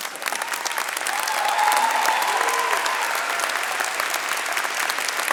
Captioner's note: audience cheering and clapping